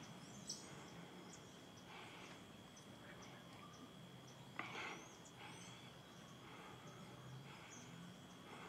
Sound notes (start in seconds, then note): 2.1 panting